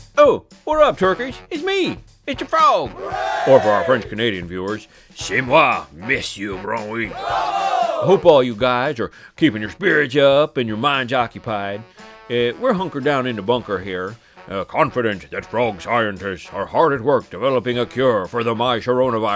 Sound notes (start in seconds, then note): 2.8 crowd cheering; 7.0 crowd cheering in French